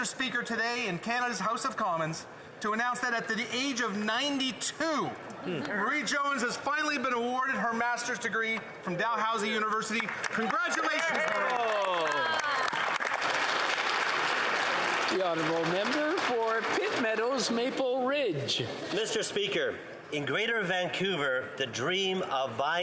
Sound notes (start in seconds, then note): 16.9 applause